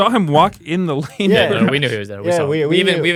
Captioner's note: laughs